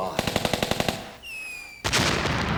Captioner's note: gunfire sound